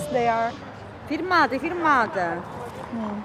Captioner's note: woman #1, in italian